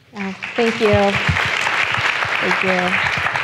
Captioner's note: applauding